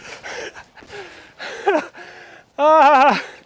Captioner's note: laughs